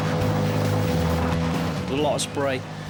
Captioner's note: dramatic music continues; motor whirring